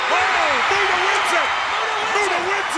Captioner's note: audience cheers